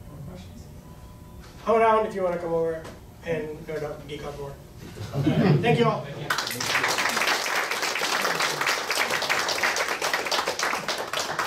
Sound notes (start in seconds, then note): 5.0 laughing; 6.2 audience clapping